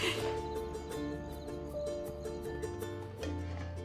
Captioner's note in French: rires; gazouillis d'insectes